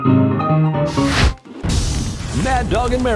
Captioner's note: blowtorch